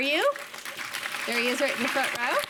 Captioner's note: audience applauding